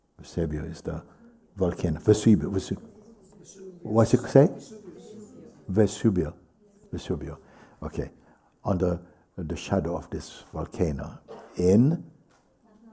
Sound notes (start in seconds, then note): 4.5 voices